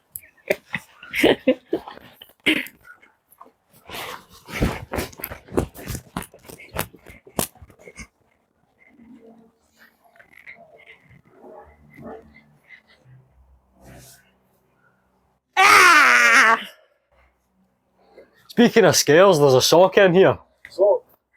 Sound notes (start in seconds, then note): 15.6 scary Scream